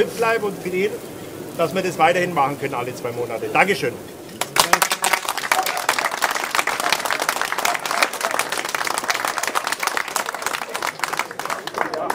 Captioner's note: applause